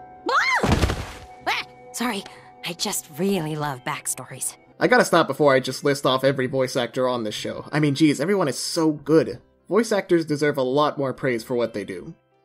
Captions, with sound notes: [screams] - [shouts] Sorry. I just really love backstories. - I gotta stop before I just list off every voice actor on this show. I mean, geez, everyone is so good. Voice actors deserve a lot more praise for what they do.